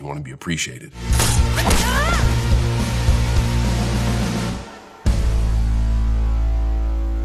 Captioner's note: upbeat music; woman groans